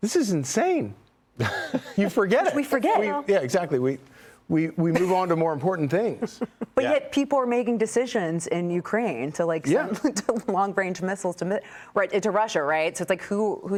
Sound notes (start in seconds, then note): 4.4 laughter